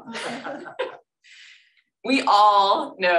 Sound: laughter

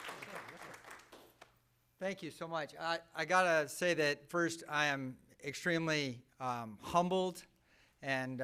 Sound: applause

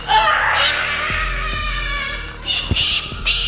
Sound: bird squawking

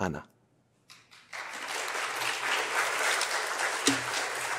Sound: applause

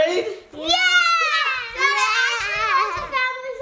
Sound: kids cheer

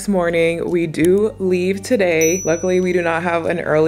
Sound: bells chime

